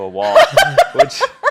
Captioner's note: laughs